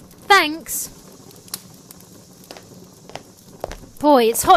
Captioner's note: footsteps down a hall